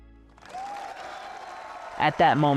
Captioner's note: crowd cheering